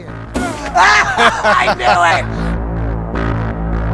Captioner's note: laughter; creepy music